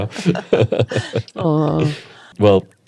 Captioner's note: both laughing